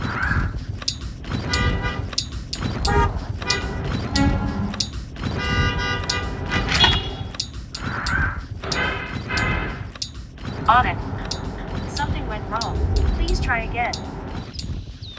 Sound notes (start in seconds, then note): 5.3 horns